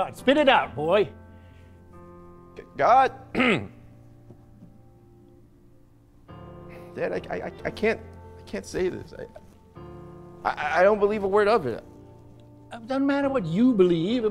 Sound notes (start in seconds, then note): 3.3 clears throat